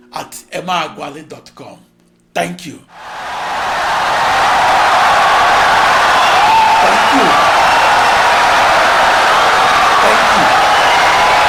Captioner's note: wild applause and cheering for 17 seconds